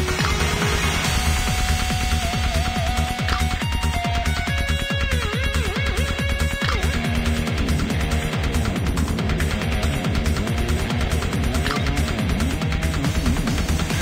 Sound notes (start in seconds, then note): 3.2 system Mechanical Sound; 4.8 strong electric sound